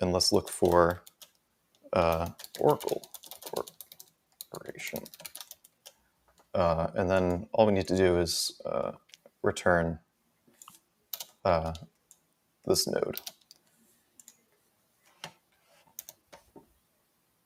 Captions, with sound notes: And let's look for Oracle corporation. (keyboard typing) And then all we need to do is return this node. (mouse clicking)